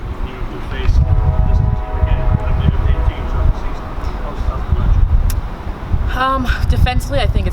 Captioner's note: train whistle blowing drowns out speaker